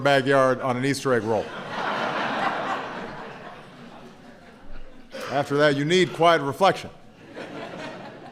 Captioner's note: laughter